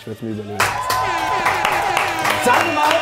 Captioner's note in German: Jubel, Tröte